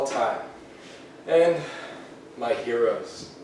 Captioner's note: sighs